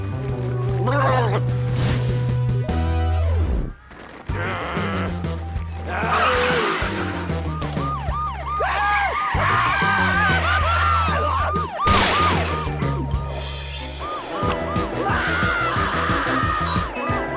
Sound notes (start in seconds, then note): 6.0 siren wailing